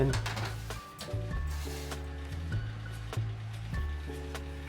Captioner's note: sheet clatters